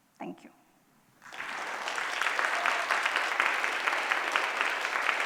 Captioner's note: applause